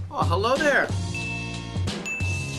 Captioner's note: ding